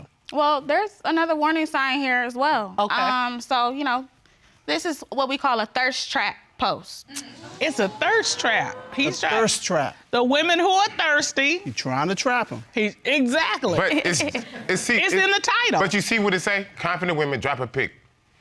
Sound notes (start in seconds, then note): 7.2 audience exclaiming